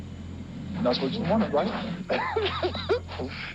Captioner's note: laughs